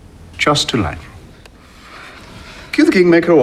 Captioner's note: relieved exhale